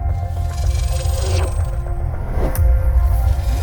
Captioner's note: zapping zounds